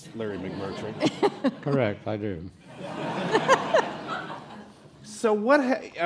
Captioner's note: crowd laughs